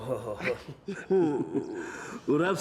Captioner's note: laughs; chuckles; speaking Slavic language